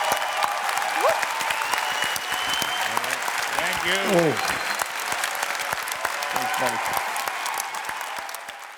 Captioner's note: cheers and applause